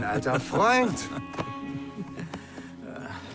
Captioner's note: both laugh